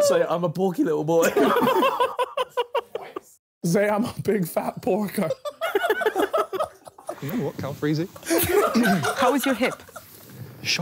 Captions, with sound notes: - Say I'm a porky little boy. (laughing) - Say I'm a big fat porker. - How is your hip?